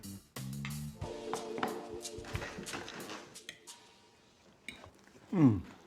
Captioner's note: gentle upbeat music; plates clattering